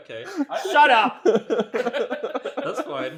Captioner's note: continues laughing